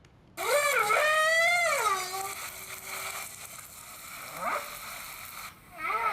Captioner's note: whale trumpeting